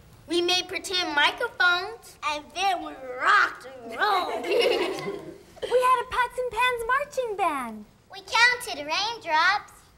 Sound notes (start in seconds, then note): 4.4 everyone laughs